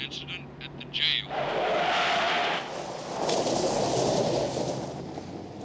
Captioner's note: tires squealing and spinning on dirt road